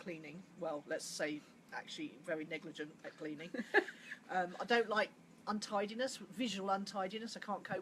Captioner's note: laughs